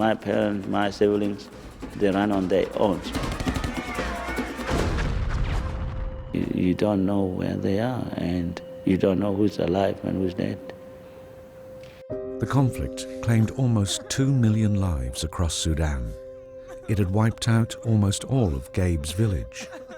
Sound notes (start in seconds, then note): 3.1 panicked screams; 3.5 guns firing; 13.5 voiceover